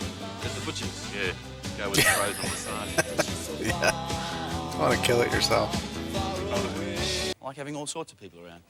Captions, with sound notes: [Laughing] Yeah. Don't want to kill it yourself.